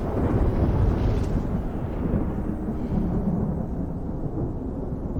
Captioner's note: thunder